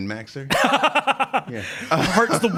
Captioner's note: laughing